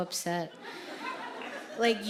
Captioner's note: audience laughing